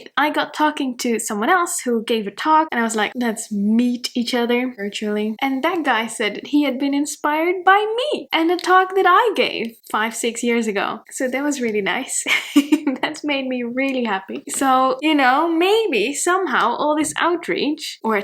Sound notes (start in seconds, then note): 12.2 chuckles